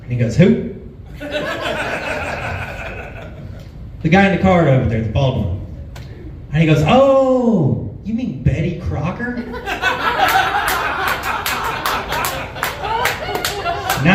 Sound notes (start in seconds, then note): 1.2 laughs; 9.4 laughs